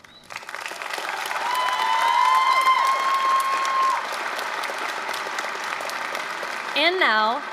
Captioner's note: applause, cheering